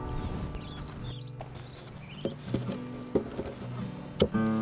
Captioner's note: birds chirping